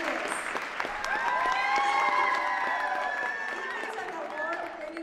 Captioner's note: audience clapping and cheering